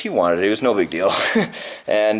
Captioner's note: laughing